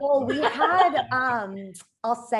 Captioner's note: laughs quickly